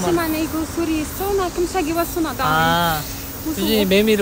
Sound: cicada

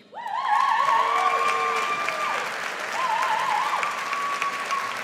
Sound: audience applauds

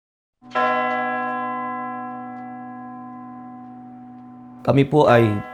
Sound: church bell ringing

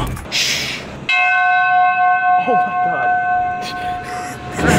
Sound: ridiculously loud bell ringing

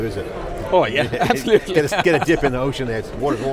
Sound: laughing

